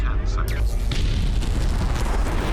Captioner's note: electric zapping